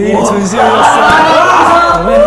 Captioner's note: screaming